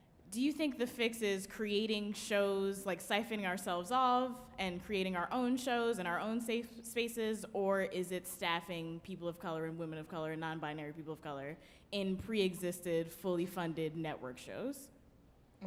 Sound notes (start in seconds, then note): none